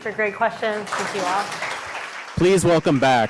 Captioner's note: audience clapping